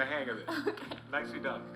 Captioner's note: laughs